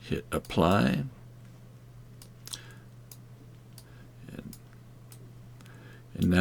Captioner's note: mouse clicking